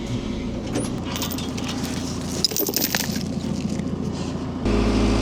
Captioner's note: chain rattling